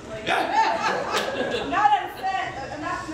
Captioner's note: audience laughs